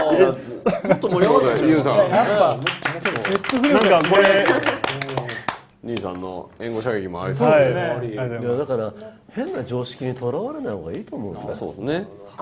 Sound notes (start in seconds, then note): 3.2 clapping